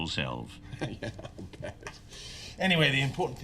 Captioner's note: laughing